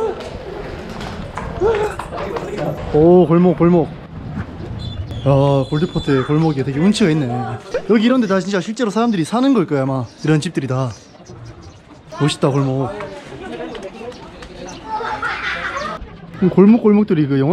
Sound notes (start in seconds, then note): 14.6 the laughter of local children